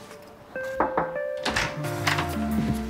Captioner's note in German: Es klopft